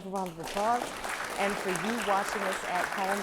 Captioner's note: applause